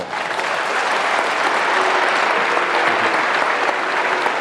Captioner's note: applause